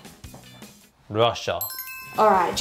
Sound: bell sound

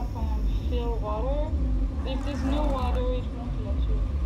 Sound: muffled sounds of infected

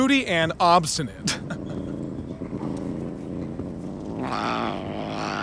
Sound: cat growling; meowing angrily

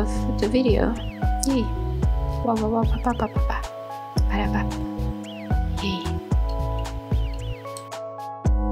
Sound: end recording mouse click

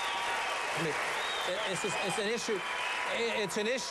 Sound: applause

